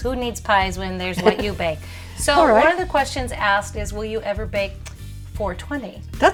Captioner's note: giggle